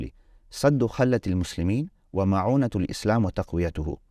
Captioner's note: speaking Arabic